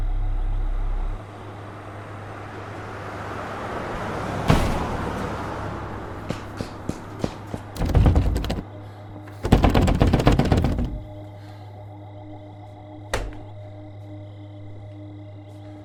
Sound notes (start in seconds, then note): 1.2 passing car whooshes; 4.4 door slams; 9.3 door rattles; 13.1 hand slaps